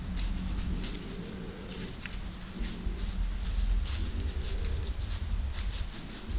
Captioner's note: rustle rustle…